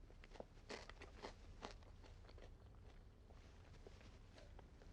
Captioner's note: food crunching